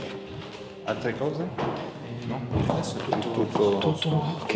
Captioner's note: speaks in Italian